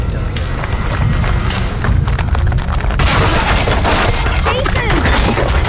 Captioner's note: devastation roaring as people run